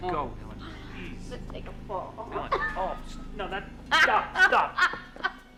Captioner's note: giggling